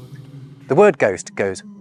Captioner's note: ghostly voice